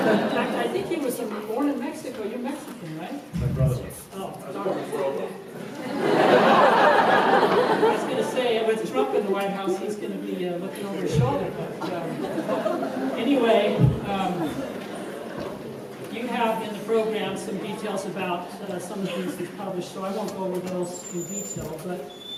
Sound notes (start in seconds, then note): 5.6 laughter